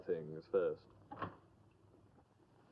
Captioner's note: door opens